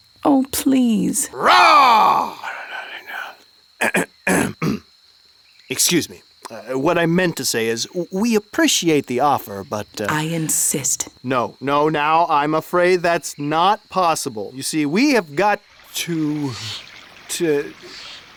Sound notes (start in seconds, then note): 1.2 Paul roaring; 2.6 Silas whispering; 3.8 Paul clearing throat